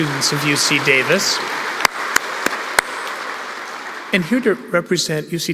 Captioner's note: applause